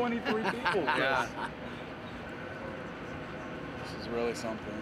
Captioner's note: laugh